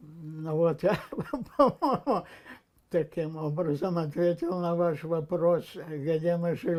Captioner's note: laughing